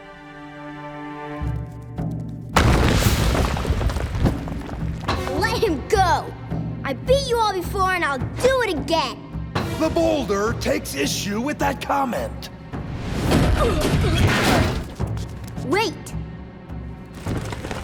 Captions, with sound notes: Let him go! I beat you all before and I'll do it again! The Boulder takes issue with that comment. [groaning] Wait.